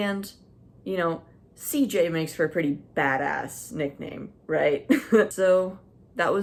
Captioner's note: slight chuckle